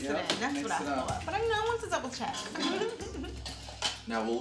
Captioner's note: giggles